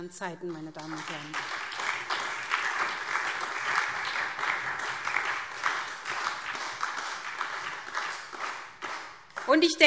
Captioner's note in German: Beifall